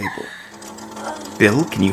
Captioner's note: rattling sound